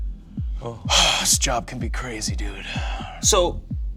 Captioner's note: sighs